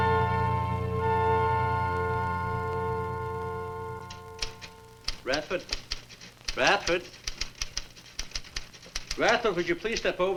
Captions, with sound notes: (typewriter clacks) - Radford? Radford. Radford, would you please step over here?